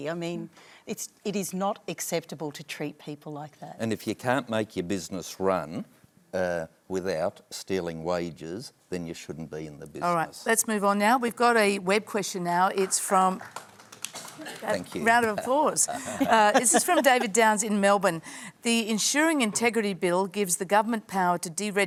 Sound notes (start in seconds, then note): 12.7 applause